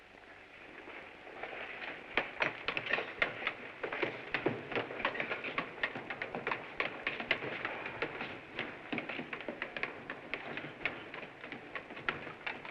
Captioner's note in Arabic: أقدام تتسلق الدرجات